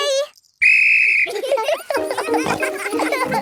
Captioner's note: blows whistle; giggling